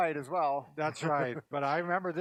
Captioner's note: laughing